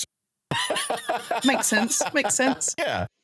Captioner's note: laughing